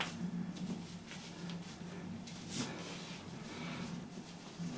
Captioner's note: person breathing